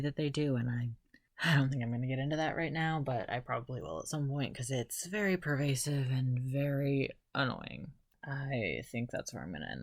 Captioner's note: sigh